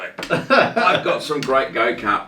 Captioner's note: laughing